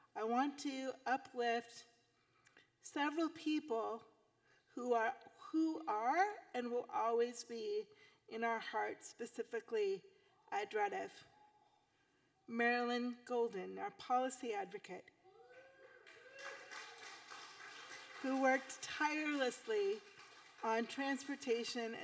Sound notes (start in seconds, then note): 15.4 audience whooping; 17.2 audience applauding